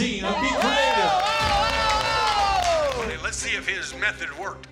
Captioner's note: cheers and applause